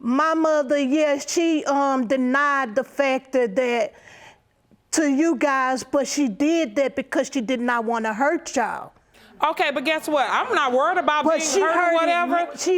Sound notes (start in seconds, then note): none